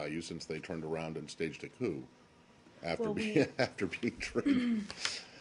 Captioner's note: laughter